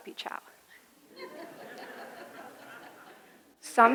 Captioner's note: audience laughing